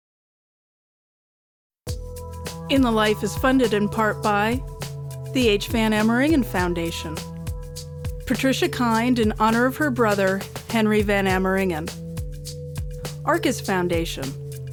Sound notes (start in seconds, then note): 2.0 announcer, over music